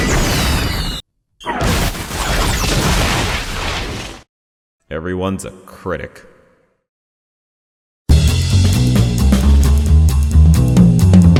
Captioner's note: clip of green screen guns shooting and explosions